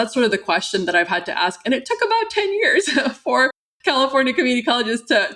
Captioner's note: laughter